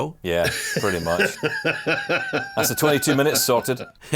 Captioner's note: laughs